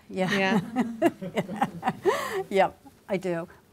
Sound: laughing

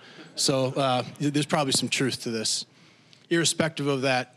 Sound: audience laughing

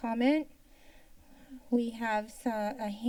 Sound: inhales

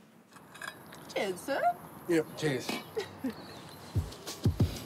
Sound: chuckles

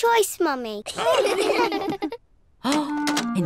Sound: all laugh

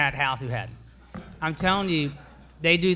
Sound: all laugh

